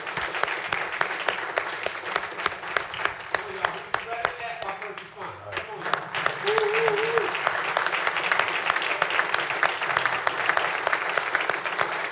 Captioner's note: applause